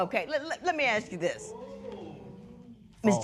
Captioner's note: spectators murmur